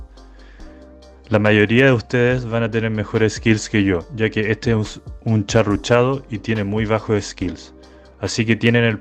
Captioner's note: rushed